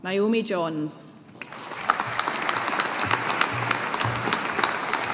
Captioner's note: audience applauding